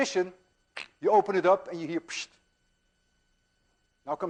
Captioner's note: makes whooshing sound